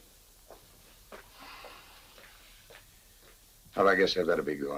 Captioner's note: footsteps tapping